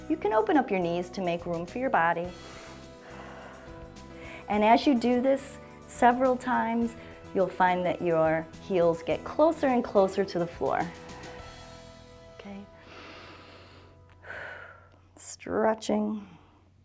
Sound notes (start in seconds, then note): 2.3 inhales and exhales; 12.8 inhales and exhales